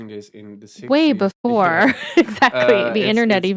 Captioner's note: laughing